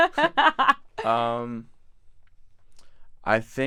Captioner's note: laughs